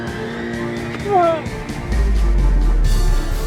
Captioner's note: grunting; ominous music